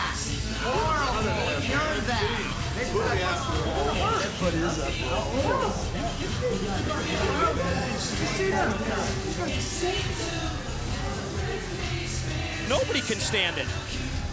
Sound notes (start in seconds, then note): 5.6 crowd chatter